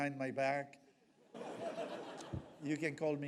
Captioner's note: audience laughs